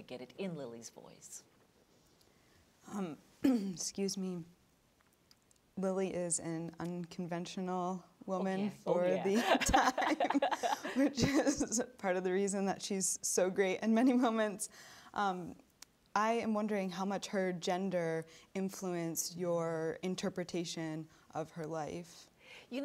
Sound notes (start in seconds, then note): 3.4 clearing throat; 9.3 both laughing